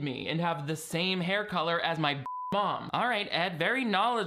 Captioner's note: beep